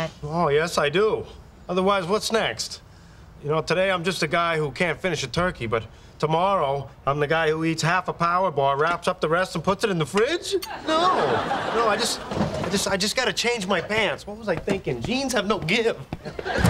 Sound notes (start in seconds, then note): 10.6 audience laughing; 16.1 audience laughing